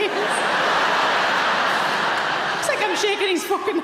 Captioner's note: audience laughing